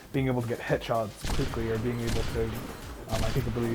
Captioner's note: gunshots banging